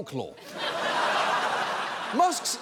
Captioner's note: audience laughing